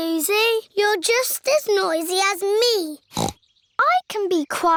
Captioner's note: snorts